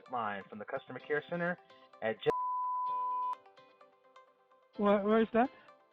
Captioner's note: beeps